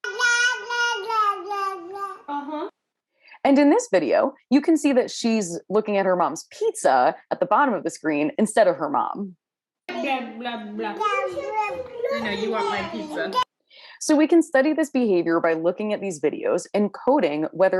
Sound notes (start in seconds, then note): 0.0 baby babbling; 10.9 both mother and baby babbling